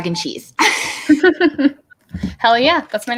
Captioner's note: laughing